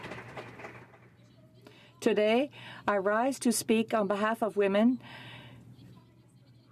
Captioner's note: cheering and Applause